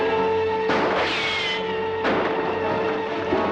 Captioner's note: banging